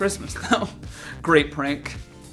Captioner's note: snickering